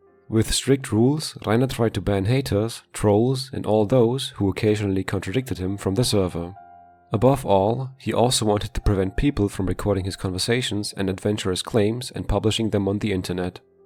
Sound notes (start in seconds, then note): none